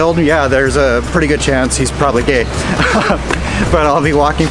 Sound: laughing

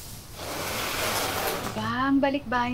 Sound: scraping sounds

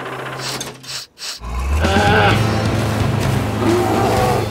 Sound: sniffing; grunting

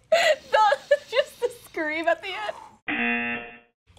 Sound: laughs; exhales shakily; buzzer

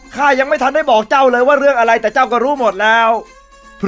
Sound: none

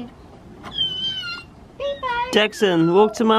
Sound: squeals

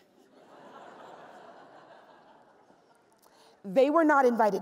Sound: laughs

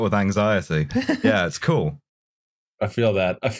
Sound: laughs

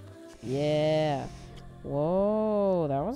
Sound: takes a deep gay breath

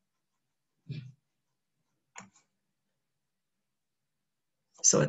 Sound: silence

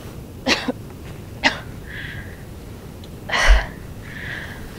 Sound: Jane coughing

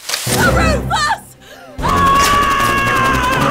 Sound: Linda, yelling

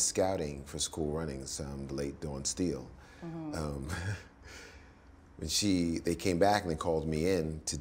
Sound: laughs

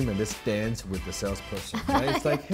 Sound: laughs

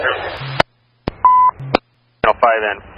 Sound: dispatch tone

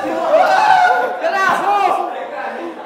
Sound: screaming with joy

